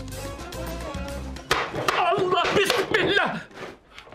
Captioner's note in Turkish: Baston vurma sesi